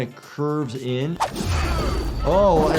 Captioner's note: characters groan, weapon slashes